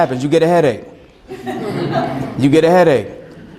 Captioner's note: students laugh